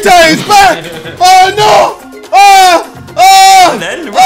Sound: shouts

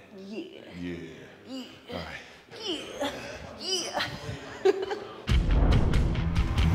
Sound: laugh

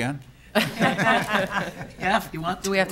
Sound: laughing

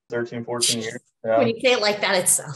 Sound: laughs

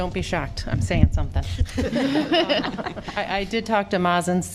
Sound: laughter

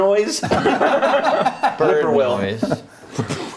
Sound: laughing

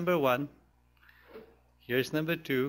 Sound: pause

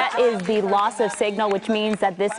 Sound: applause

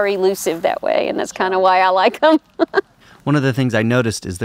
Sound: laughs

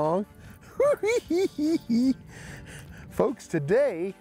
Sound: giggling

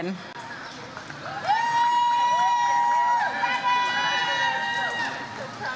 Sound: audience cheers

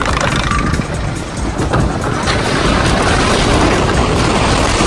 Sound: wooden roller coaster noises

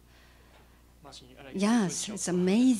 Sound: non-english speech

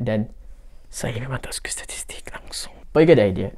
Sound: whisper

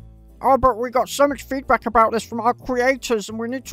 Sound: in a mocking voice

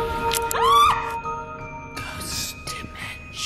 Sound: screams

